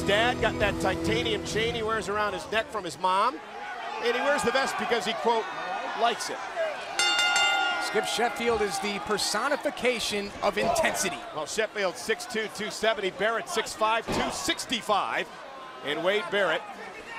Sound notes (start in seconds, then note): 7.0 bell ringing